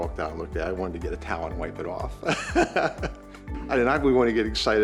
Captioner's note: laughing